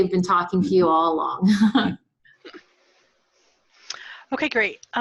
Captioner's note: chuckles